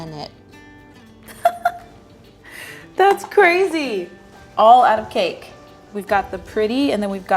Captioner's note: laughing